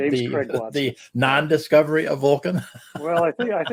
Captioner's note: chuckles